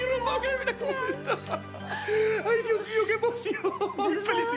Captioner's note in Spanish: Risas